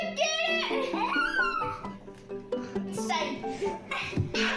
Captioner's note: screams